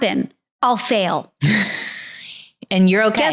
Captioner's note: chuckling